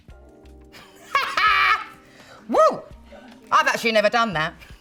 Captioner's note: laughs